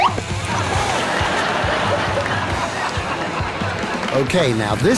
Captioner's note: raucous laughter from the audience